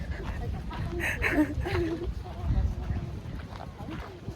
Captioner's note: laughing